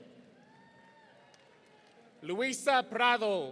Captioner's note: audience cheering